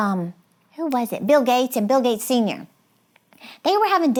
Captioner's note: snaps